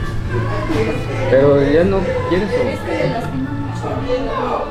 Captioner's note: background chatter